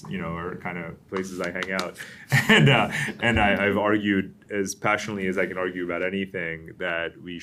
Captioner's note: laughter